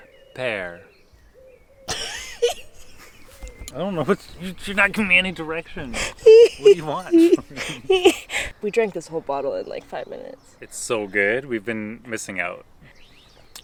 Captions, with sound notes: Pear. I don't know... you're not giving me any direction. What do you want from me? [Both laugh] We drink this whole bottle in, like, five minutes. It's so good. We've been missing out.